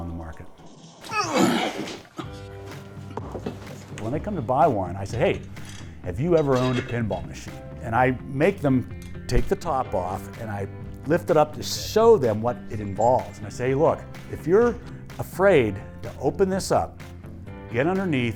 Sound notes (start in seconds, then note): 1.0 grunting